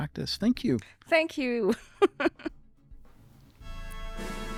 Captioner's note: laughs; uplifting music